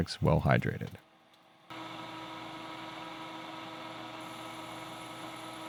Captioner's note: machine whirring